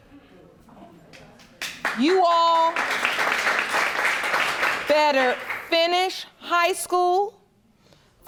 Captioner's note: audience applauding